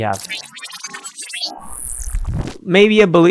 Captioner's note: machine whirring